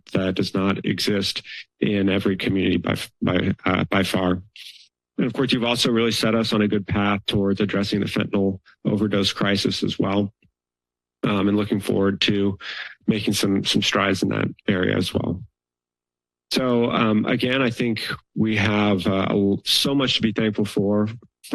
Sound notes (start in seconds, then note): 16.5 pause